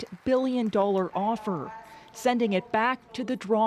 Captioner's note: cheers and applause